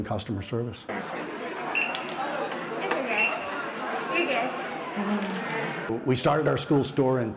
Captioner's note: crowd noise